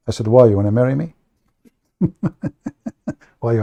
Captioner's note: Ketawa